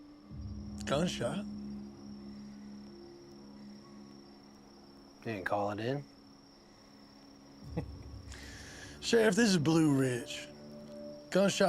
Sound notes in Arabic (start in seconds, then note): 2.4 موسيقى متوترة; 7.7 ضحكة مكتومة